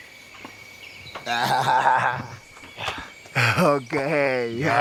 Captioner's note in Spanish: Risas